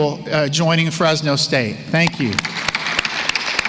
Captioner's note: applause